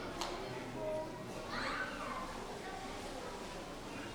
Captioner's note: audience chattering